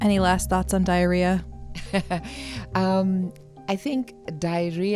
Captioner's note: chuckles